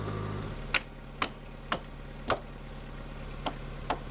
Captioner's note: hammer banging